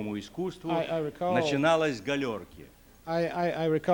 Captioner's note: non-english speech